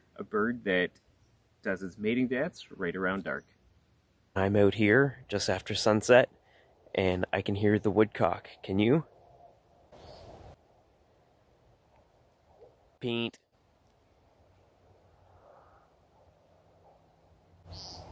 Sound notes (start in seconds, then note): 9.3 birdsong and sound of wind in trees